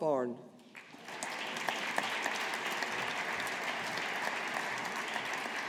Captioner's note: audience applauding